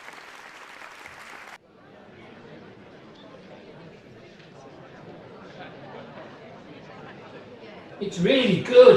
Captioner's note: cd playing noise of busy foyer